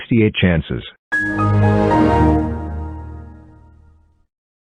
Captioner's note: Windows XP Shutdown